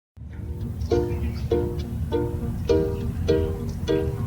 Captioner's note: village street sounds